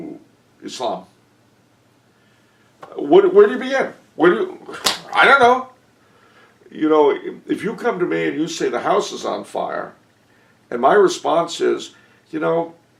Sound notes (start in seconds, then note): 4.1 exasperation